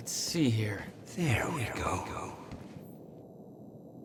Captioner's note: as an echo from the past